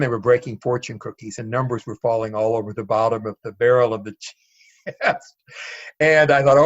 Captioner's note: laughs